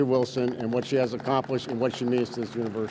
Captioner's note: audience claps